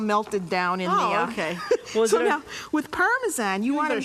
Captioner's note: laughing